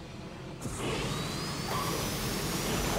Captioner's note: turbine sound